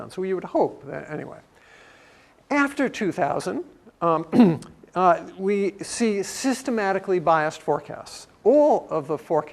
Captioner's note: cough